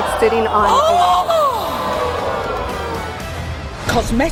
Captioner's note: gasps